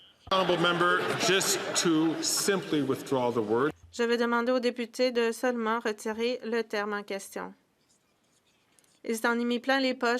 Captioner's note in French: voix de l'interprète